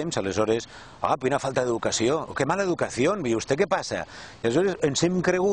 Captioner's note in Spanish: en castellano